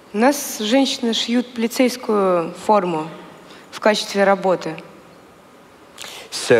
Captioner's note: foreign Language